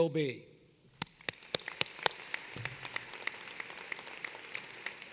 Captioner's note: applause